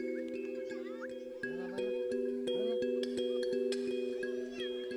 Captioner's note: children chattering in Yanomami